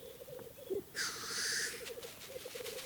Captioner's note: squawks